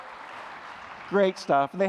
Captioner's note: applause